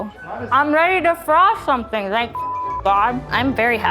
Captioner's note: beep